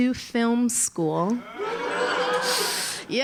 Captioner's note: Risas